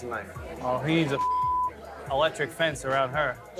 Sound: beep

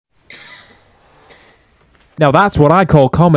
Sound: silence

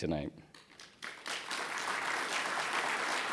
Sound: applause

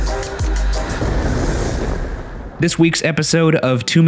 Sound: thunder rumbling

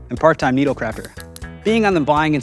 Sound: needles clicking

